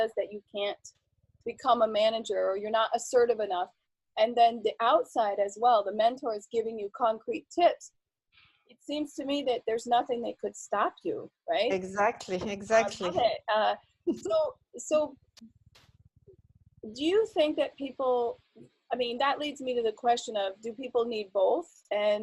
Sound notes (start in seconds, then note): 11.7 laughs